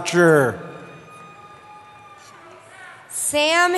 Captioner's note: cheering